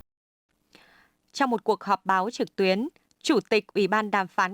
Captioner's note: Turkish